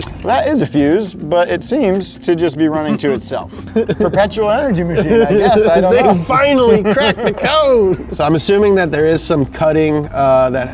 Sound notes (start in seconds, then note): 2.6 laughing